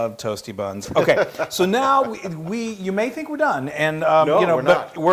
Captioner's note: laugh